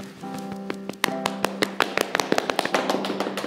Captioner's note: clapping